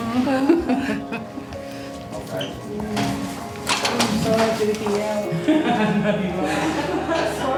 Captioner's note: chuckles